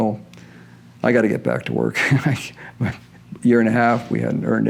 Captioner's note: chuckles